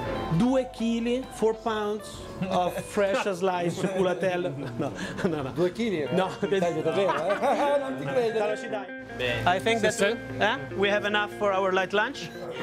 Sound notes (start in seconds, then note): 5.7 speaking Italian, laughter